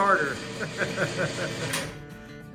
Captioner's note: laughs